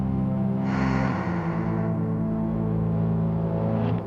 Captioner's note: Jack exhales